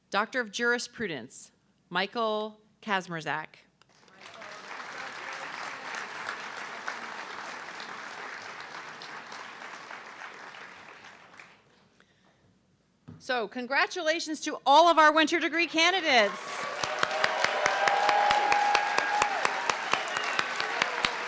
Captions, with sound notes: Dr of Jurisprudence, Michael Kazmrazak. (audience clapping) So congratulations to all of our winter degree candidates. (audience clapping and cheering)